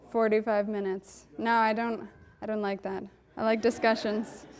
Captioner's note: audience laughing